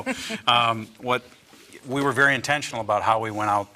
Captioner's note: laughs